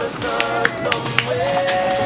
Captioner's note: applause